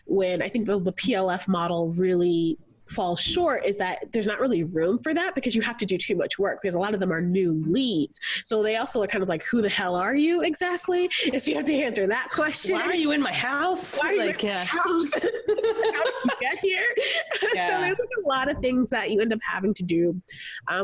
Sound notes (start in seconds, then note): 13.9 laughs